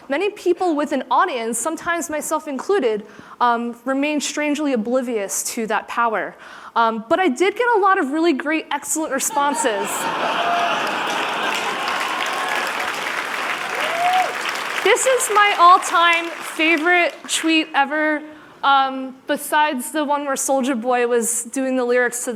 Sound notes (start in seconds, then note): 9.8 laughter; 9.9 applause